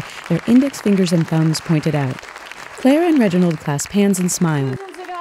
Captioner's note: applause, cheers continue